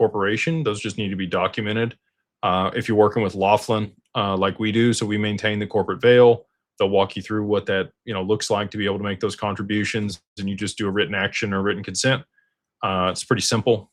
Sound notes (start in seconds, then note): none